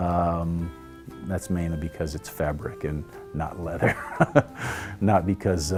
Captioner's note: laughs